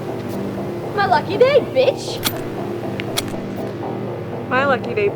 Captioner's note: gun clicks